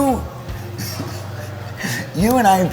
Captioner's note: giggles